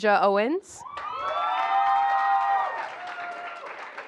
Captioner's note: applause